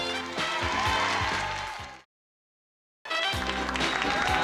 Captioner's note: cheering